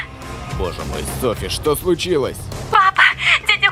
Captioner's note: on phone